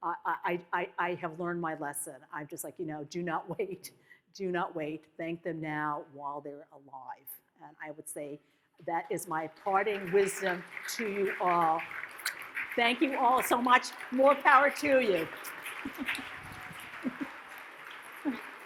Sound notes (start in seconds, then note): 11.5 audience claps; 12.2 lips smack; 15.9 audience claps